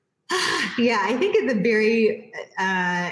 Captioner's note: sighs loudly